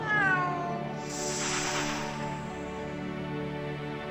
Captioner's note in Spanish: gato maullando